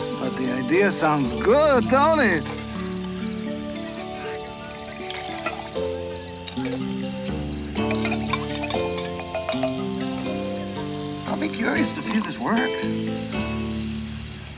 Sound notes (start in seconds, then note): 4.8 water splashes; 7.9 spoon clinks